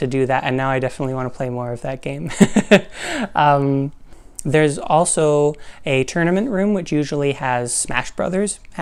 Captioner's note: laugh